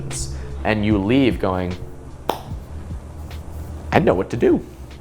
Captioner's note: hands clap